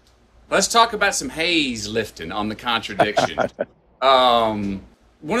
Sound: Sadhguru laughs

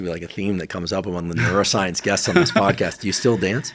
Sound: chuckling

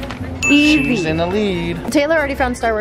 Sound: ding

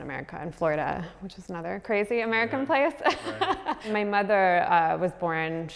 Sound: laughs

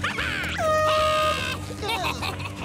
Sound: laughing; air horn blowing

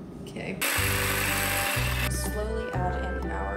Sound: food processor buzzing

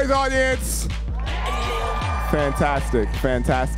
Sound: audience cheering

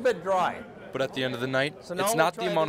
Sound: voiceover

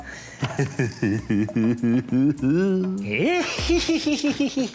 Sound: darkly giggling

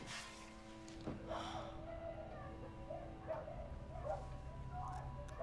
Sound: muffled yelling

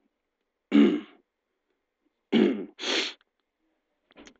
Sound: throat clears

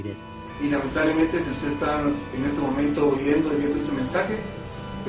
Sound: speaks foreign language

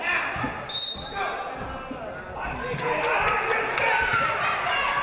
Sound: referee blows whistle

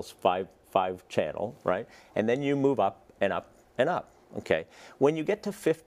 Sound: none

